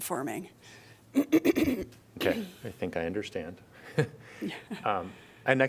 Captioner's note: laughter